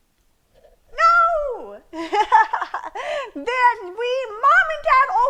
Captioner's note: laughs